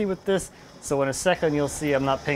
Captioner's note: engine whirring